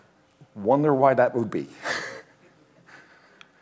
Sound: chuckles

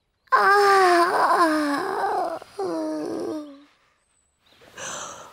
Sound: birds chirp; yawns

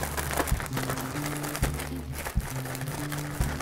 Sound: bag crinkling

